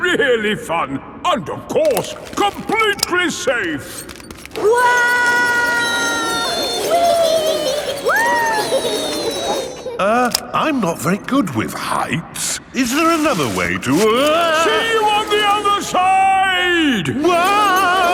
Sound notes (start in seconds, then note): 5.1 all yelling